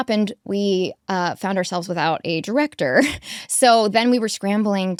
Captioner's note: chuckles